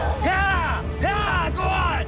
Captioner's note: shouting